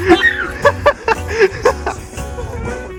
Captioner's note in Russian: закадровый смех